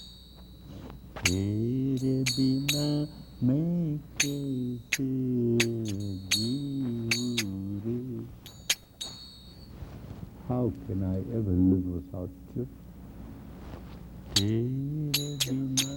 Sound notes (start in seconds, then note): 2.1 group claps to a beat